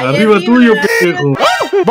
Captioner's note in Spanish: grito masculino